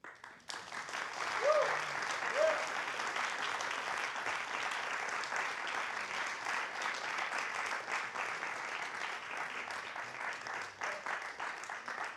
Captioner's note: applause